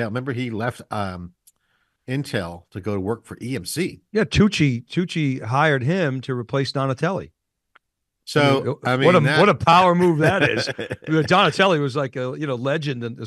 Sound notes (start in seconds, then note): 10.9 laughing